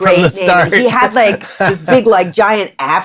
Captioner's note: laughter